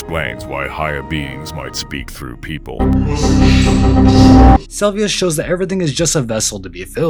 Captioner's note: possession Noises